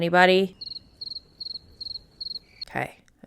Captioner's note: more crickets